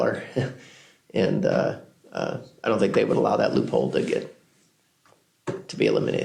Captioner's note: laughs